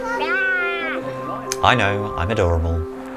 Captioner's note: vocalising